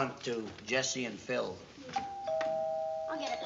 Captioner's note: doorbell ring